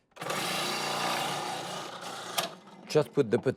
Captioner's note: machine whirs